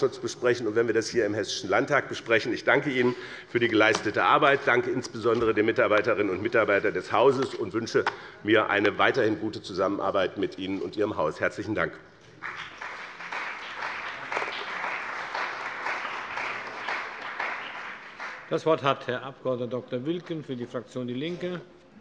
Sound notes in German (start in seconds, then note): 12.3 Beifall bei dem BÜNDNIS 90/DIE GRÜNEN und der CDU